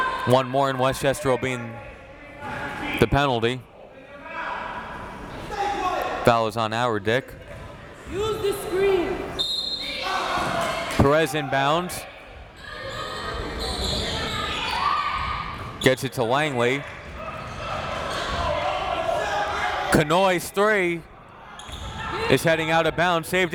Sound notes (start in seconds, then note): 5.4 crowd members shouting; 9.4 whistle tweeting; 9.5 crowd members shouting